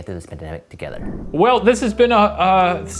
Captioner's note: air whooshing